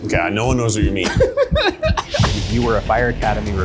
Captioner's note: laughing